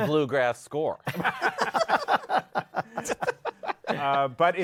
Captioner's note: laughter